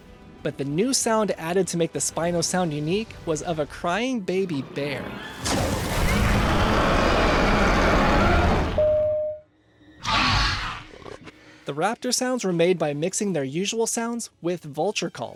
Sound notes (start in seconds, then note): 4.5 spinosaurus roars and growling noises; 10.0 raptor squeal